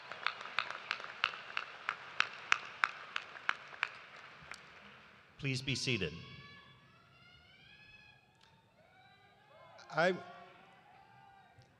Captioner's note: cheers and applause